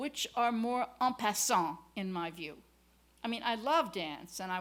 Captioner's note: french